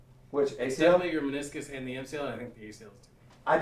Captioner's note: none